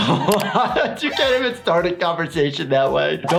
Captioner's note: laughs